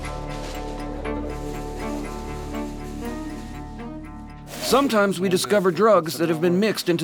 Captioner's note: voiceover